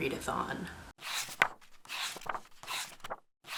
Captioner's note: pages turning